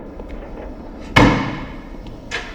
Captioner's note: bangs door